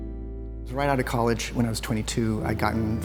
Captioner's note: voice-over